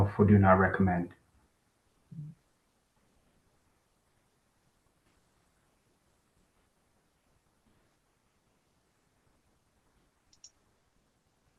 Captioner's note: pause